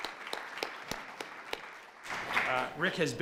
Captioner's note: applause